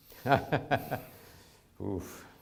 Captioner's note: chuckles